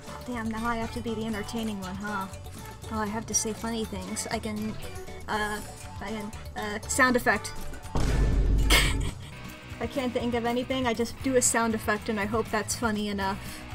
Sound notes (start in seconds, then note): 8.1 laughs